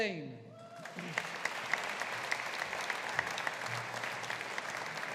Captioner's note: audience applauding